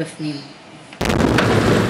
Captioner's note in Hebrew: רעש של פיצוץ